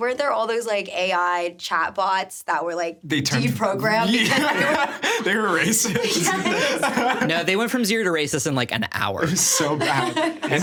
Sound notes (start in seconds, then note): 3.9 laughing